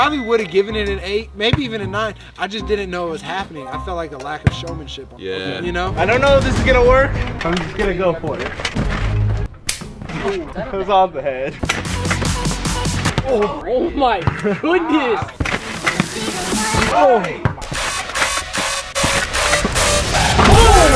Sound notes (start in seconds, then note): 9.7 snap